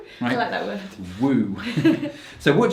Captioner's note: laughs